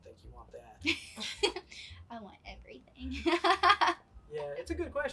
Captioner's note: laughs